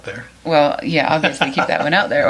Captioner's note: laughs